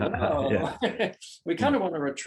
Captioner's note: laughs brightly; laughs briefly